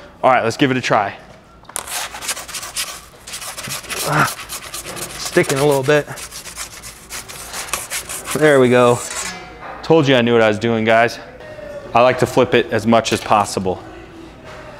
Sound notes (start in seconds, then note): 1.7 peel scraping; 4.0 groaning